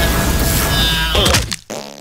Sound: thuds; fart

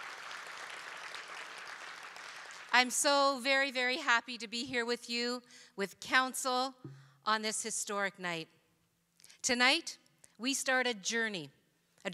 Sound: cheering

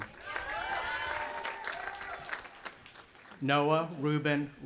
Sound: audience applauding and cheering

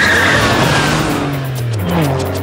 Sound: tires squealing

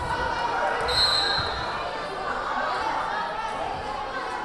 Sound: whistle blaring

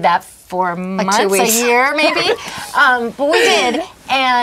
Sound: laughs

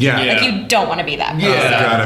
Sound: laughter

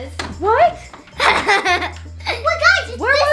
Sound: laughs

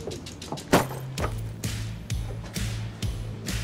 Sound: purse thuds

